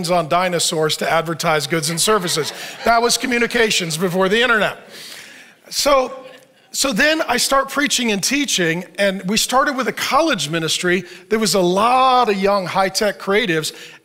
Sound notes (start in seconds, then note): 1.8 audience laughs